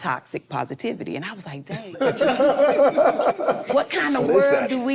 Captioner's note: group laughs